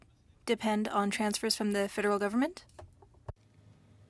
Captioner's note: speaking French